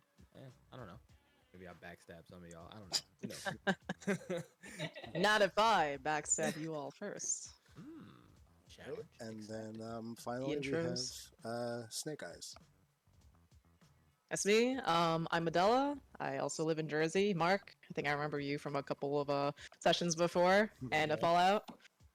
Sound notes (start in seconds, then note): 3.2 awkward laughter